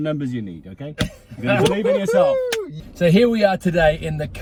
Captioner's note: whoops